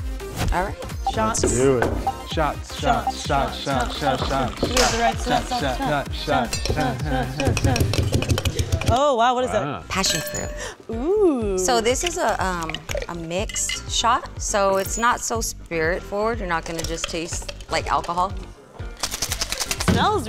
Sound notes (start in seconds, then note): 0.0 upbeat music; 7.6 bottle thumps; 19.0 shaker clacks